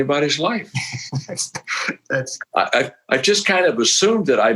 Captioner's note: laughing